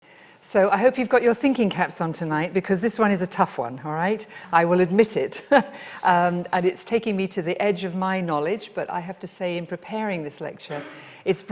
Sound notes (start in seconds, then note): 6.2 laughs